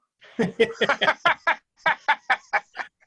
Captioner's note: laughs